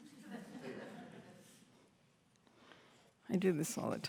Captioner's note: laughter